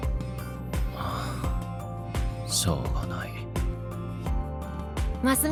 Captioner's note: sighs